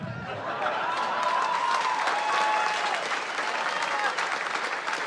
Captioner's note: cheers and applause